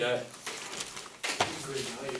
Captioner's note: voiceover